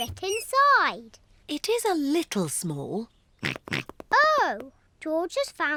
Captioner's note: snorts